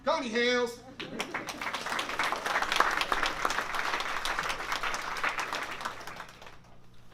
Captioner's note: applause